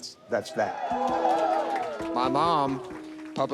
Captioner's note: crowd cheering